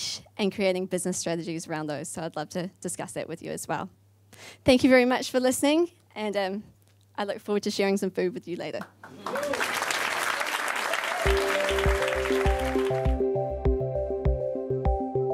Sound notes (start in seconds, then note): 9.0 audience applauding; 11.2 light electronic music